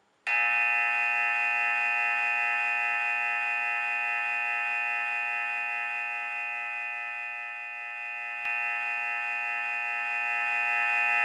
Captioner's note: buzzer sound